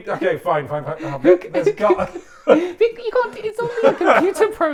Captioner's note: both laughing